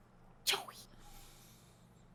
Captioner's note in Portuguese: sussurrando